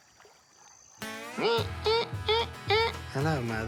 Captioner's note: imitates psycho theme